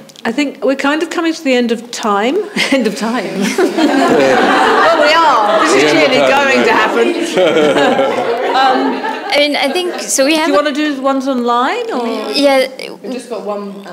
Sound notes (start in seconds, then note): 3.3 chuckles; 4.0 audience laughing; 7.6 chuckles; 8.0 all chuckling